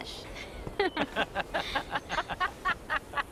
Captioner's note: laughing